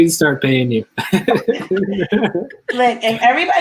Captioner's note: laughs